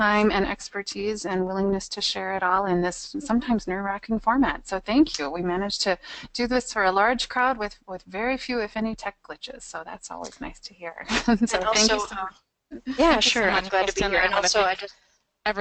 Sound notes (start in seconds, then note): 11.1 laughs; 11.8 voiceover